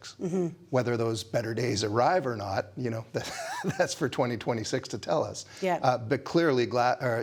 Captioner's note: laughs